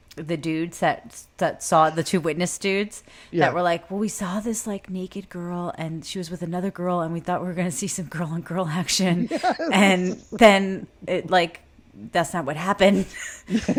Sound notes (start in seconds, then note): 9.2 laughs; 13.4 both laugh